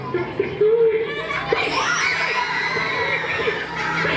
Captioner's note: screaming, laughing